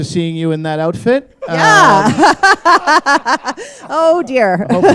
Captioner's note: laughter; chuckle